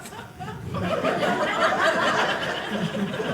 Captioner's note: audience laughing